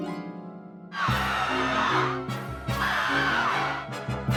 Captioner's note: stuttered screaming